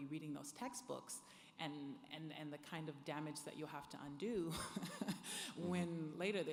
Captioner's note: laughs